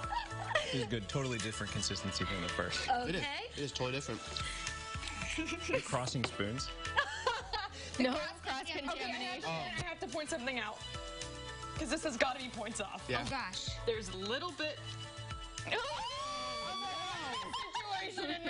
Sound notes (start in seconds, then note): 5.0 laughter